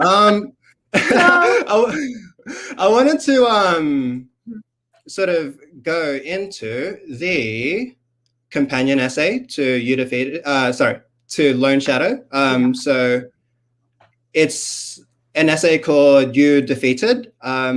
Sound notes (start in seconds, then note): 0.9 laughs